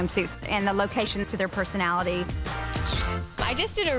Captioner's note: camera snaps